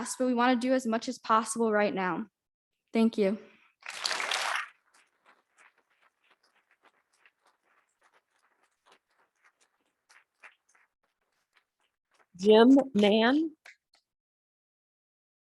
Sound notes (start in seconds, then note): 3.8 audience clapping